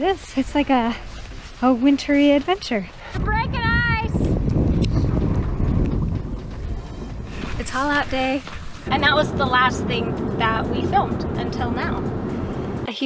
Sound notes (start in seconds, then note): 5.7 wind whooshes